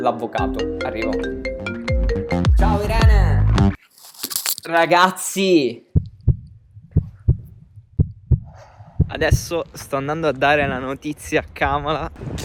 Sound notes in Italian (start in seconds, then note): 6.7 battito cardiaco